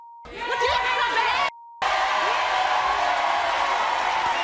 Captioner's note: crowd cheering